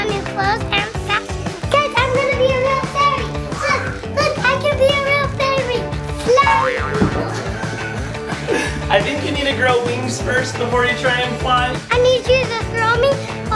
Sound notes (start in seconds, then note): 6.4 spring bounces; 9.9 laughs